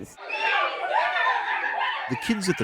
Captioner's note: kids chattering happily